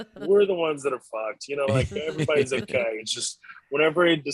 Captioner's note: beep